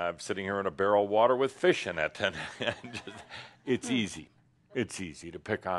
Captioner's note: Adamus chuckles